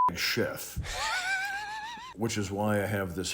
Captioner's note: laughing